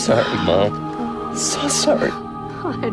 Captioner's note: crying